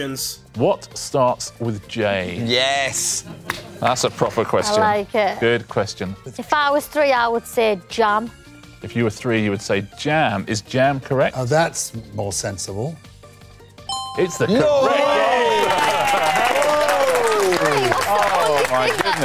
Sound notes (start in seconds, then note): 13.8 ding